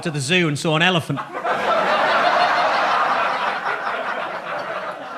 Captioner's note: audience laughs